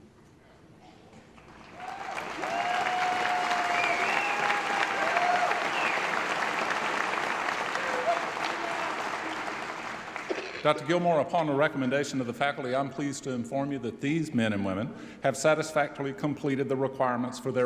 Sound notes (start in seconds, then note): 2.0 applause